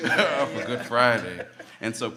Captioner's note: laughing; laughs